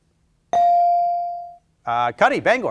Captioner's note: bell ringing